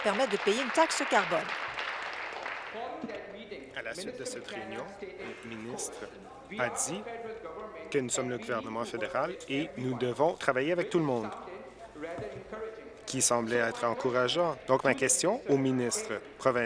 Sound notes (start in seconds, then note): 2.2 applause